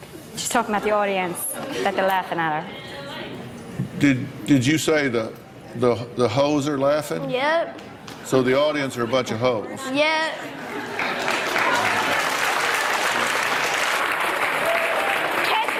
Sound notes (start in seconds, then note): 14.6 applause